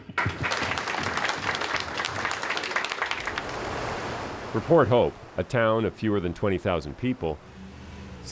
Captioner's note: applause